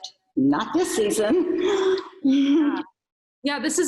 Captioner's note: giggles